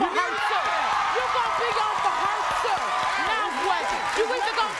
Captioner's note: audience erupts